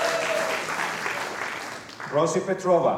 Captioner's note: applause